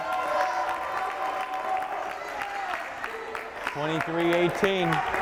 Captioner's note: crowd cheering